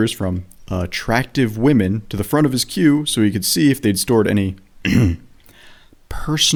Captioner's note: ahem